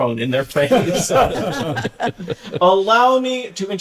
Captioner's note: laughter